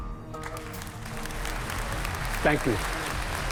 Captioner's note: crowd applauding